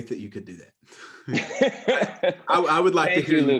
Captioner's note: laughs